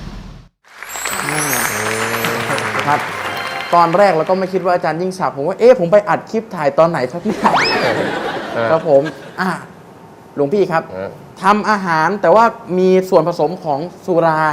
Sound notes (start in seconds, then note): 0.6 clapping sound